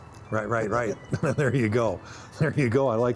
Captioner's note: laughing